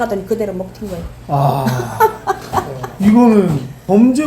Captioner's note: deep sighing